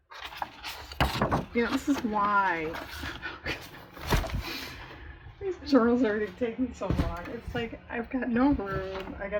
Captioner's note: laughs